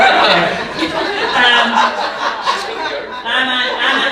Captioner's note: audience laughing